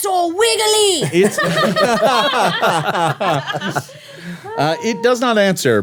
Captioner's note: everyone laughing